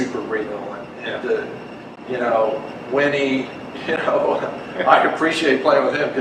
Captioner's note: laughs